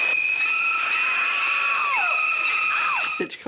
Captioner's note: screaming